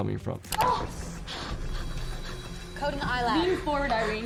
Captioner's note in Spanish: Irene gimiendo y jadeando